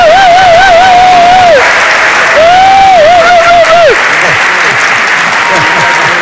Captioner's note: cheers; audience applauds